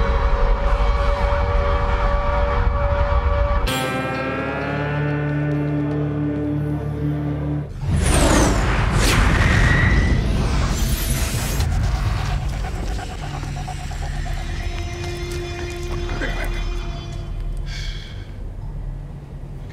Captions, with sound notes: (spacecrafts blaring) - (whispers) Wait, wait, wait.